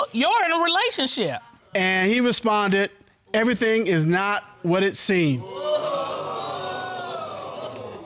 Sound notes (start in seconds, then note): 5.4 audience groaning